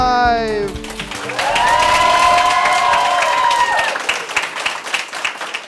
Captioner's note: applause